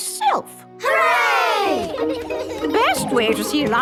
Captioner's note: giggling